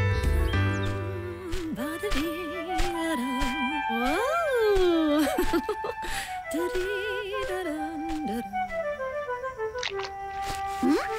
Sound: humming

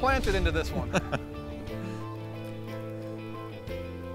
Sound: laughing

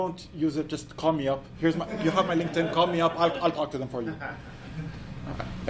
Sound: laughs

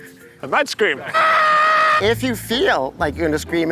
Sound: screaming

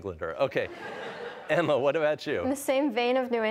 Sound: audience laughing

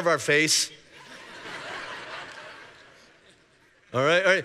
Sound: congregation laughing

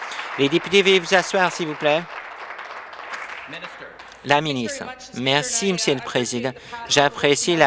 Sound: applause

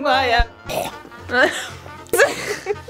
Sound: coughs

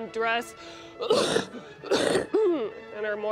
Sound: coughing

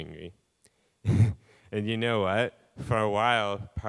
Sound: laughing

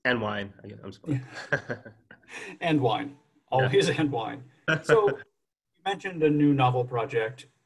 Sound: chuckles

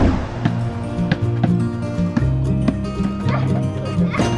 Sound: ball bouncing

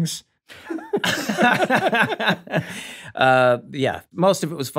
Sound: all laughing

